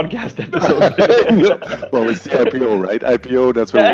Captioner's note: both laughing